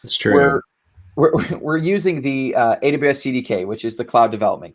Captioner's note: laughing gently